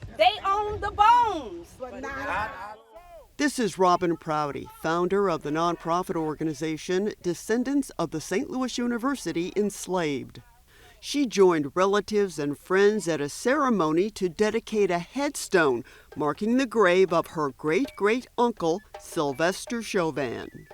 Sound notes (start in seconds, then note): 1.7 crowd converses